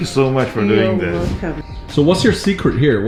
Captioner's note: Dhish